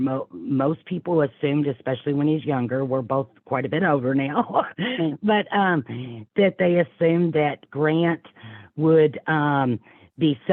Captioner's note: laughs